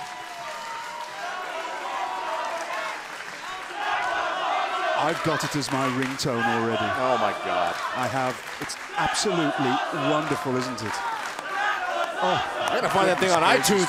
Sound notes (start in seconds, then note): 2.8 cheers & applause; 8.8 fans chanting